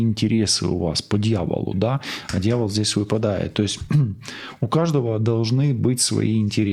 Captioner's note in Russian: откашливается